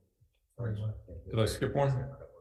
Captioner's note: men converse